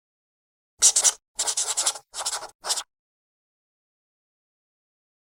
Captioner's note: pencil scratching